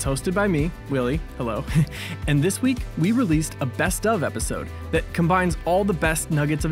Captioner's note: chuckle